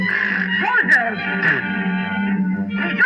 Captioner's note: speaking French; spit; speaking French